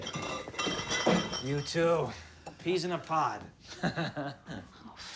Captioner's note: laughs